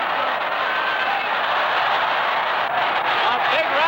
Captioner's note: crowd roaring